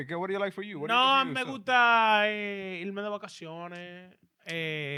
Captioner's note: speaking In Foreign Language